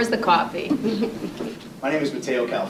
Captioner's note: women laughing